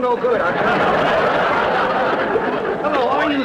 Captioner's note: audience laughter